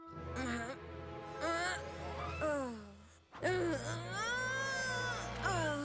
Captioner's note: grunt